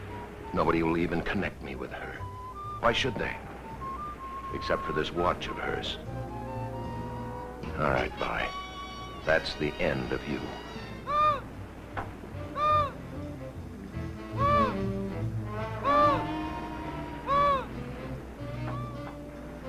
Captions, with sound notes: Nobody will even connect me with her. Why should they? Except for this what of hers. All right, Vi, that's the end you. (seabird calling) (light jazzy music)